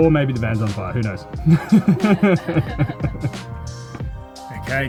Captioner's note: laughter